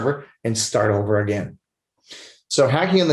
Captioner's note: sniffles